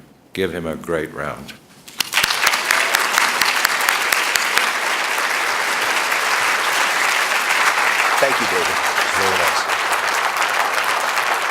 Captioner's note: applause